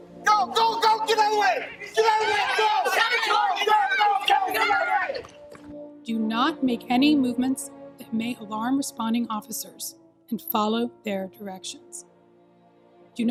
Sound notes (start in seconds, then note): 3.4 screaming of students